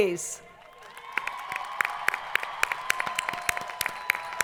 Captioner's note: crowd applauding